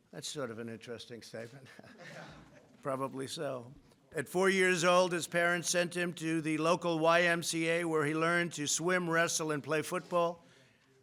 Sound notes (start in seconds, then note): 1.6 laughter